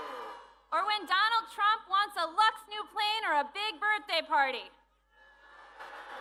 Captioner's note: booing